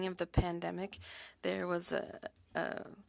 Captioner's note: speaking French